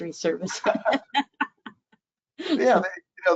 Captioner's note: chuckles